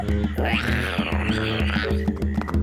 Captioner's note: roars; laughs; roars